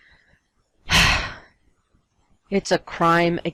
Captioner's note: sigh